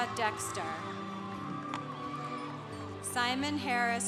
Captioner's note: congregation applauding